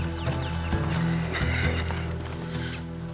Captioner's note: sighs